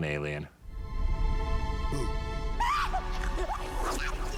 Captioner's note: shrieking